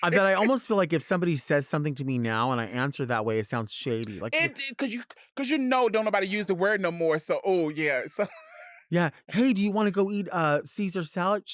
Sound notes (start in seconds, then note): 0.0 laughing; 8.0 laughing